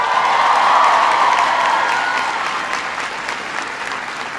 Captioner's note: applause